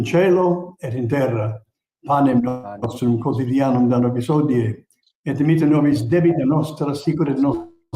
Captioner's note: prayer continues in Latin